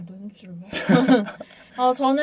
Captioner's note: laughs